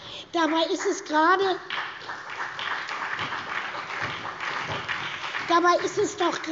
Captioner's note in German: Beifall bei der SPD und bei Abgeordneten der FDP